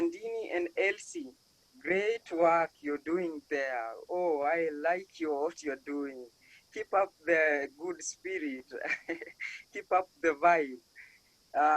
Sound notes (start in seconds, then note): 8.8 laughs